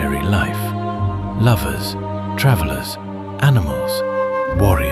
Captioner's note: thoughtful